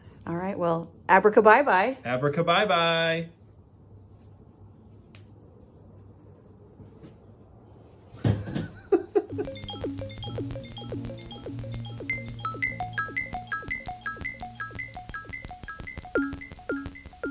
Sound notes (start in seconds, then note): 8.2 laughter; 9.3 theme music